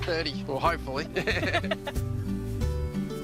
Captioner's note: both laugh